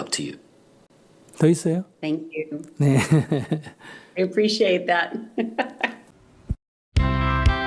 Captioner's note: questioner Laughter